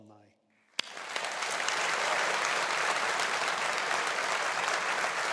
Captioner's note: audience applauding